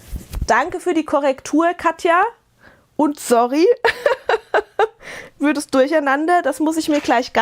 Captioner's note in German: gelächter